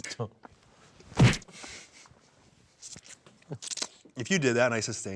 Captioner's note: punch thuds